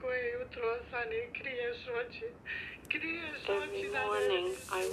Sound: speaks in foreign language

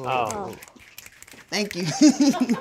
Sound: all snapping

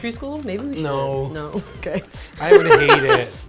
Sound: laughs

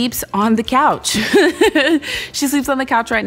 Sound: laughing

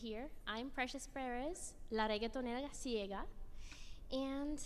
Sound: speaks in Spanish

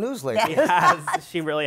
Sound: laughter

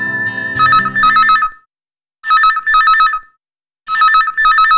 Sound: phone rings

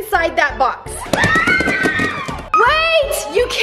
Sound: cheering

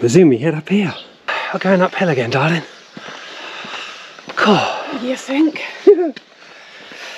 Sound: laughter

